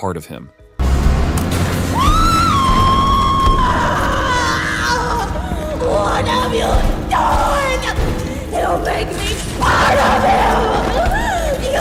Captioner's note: scream